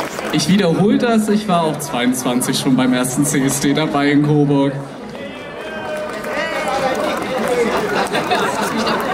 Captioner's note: cheers